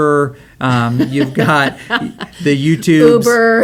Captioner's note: laughs